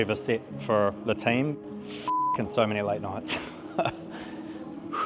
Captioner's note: beep